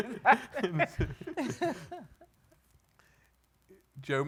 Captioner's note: laughing